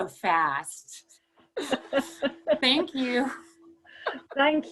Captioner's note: laughter